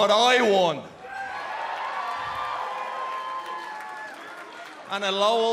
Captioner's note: cheers and applause